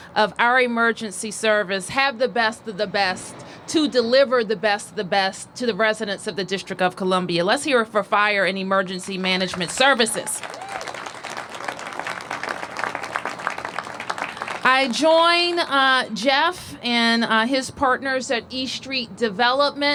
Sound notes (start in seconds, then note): 11.9 applause